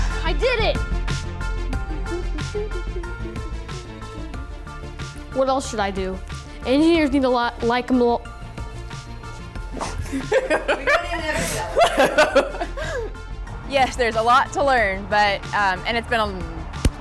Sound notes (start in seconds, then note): 8.4 stumbles on words; 9.8 laughs